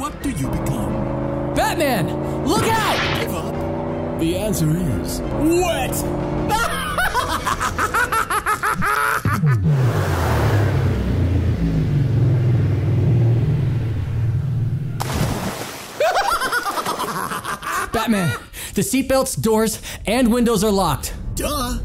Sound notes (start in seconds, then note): 6.4 Riddler laughing; 15.0 water splashing; 16.0 Riddler laughing